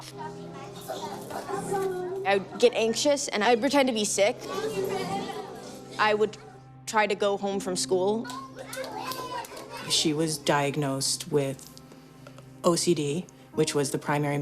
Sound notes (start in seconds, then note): 3.9 students chatter excitedly; 8.2 children shout and laugh